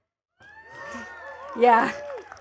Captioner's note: attendees cheering and clapping